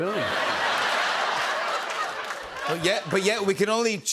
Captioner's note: laughter